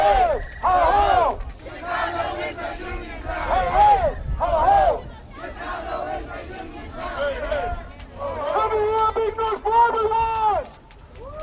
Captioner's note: chanting